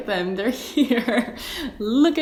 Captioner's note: laughs